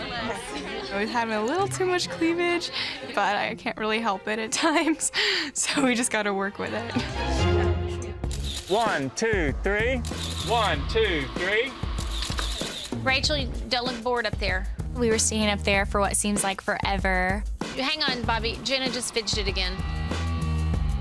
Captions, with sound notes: - I was having a little too much cleavage. But I can't really help it at times. (laughing) So we just gotta work with it. (dramatic music) - One, two, three, (camera clicking) one, two, three. (camera clicking) - Rachel, don't look bored up there. - We were standing up there for what seems like forever. - Hang on Bobby. Jenna just fidgeted again.